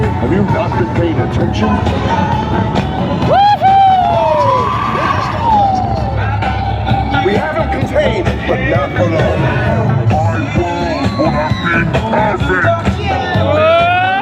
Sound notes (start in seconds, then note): 3.4 people cheer